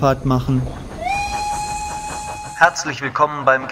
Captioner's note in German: Pfeifen der Lokomotive